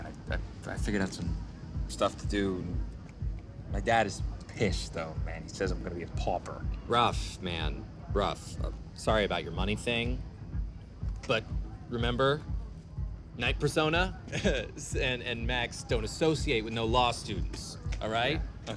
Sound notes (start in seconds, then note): 14.2 laughs